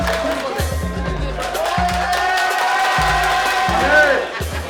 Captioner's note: cheering